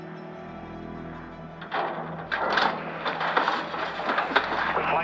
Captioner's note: clanking